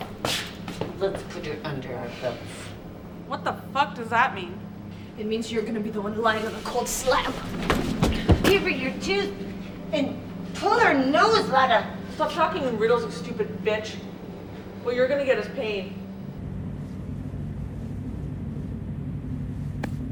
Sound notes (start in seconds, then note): 8.7 Milana speaking gibberish; 16.0 suspenseful music